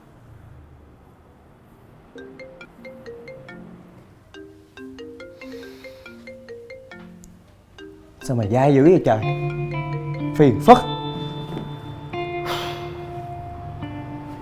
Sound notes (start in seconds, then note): 2.1 phone ringing